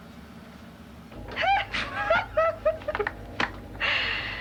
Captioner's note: giggling